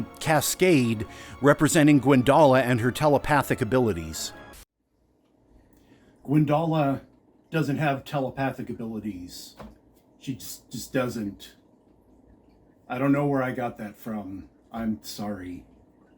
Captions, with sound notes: cascade, representing Gwyndala and her telepathic abilities. (static) Gwyndala... ...doesn’t have telepathic abilties. She just, just doesn’t. I don’t know where I got that from. I’m sorry.